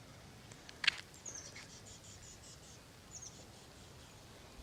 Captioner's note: birds chirping